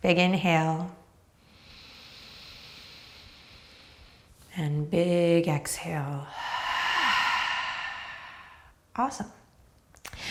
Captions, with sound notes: Big inhale. (inhales) And big exhale. (exhales) Awesome.